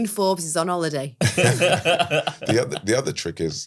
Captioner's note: laugh